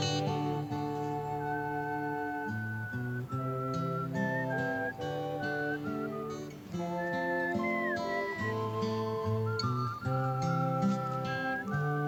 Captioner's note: whistling